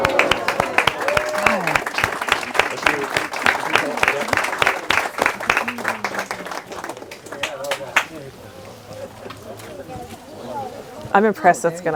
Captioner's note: clapping and applause